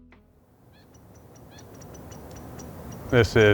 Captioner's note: birds chirping